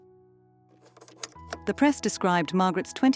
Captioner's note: slide clunking